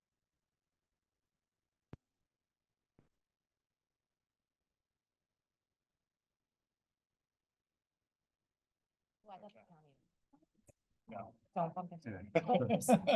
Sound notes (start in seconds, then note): 0.0 silence; 9.2 background chatter; 9.2 laughter